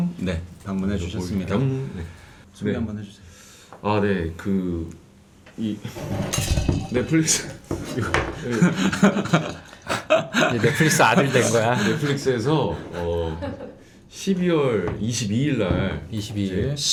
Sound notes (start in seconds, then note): 5.9 rattling